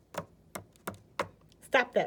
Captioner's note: tapping